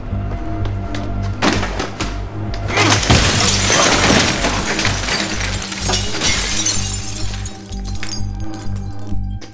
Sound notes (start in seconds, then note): 0.0 tense music; 2.7 glass shatters